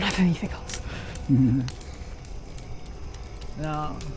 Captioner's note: Max chuckles